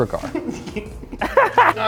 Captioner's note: both laugh